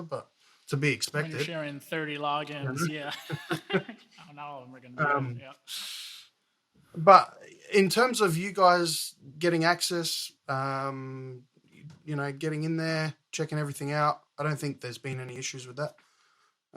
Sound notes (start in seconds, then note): 2.4 laughs